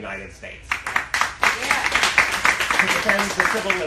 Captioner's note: applauding